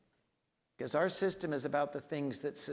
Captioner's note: none